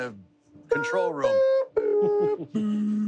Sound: humming

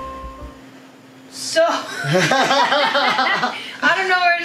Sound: laughter

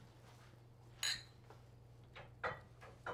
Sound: glasses clink

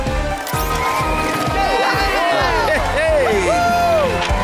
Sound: cheering

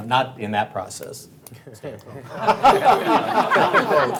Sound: laughing

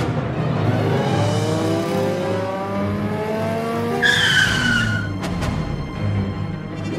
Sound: car accelerating, then drifting

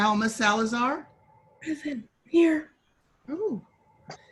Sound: speaking in faint voice

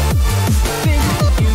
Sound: glitch noises

